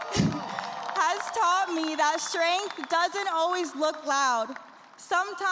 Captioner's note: cheers and applause